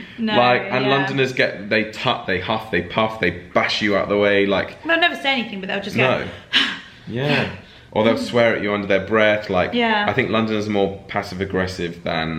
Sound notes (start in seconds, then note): 6.0 sighs